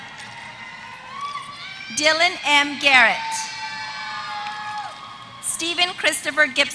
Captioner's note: applause